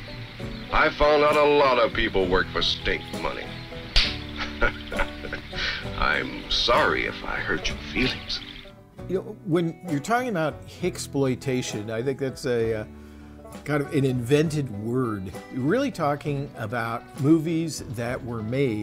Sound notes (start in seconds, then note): 3.9 hand slapping; 4.2 laughing